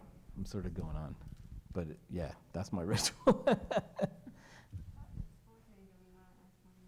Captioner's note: laughs